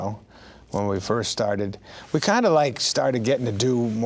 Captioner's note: none